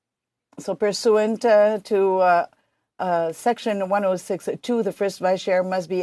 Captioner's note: speaking French